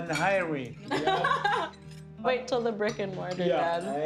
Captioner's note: laughs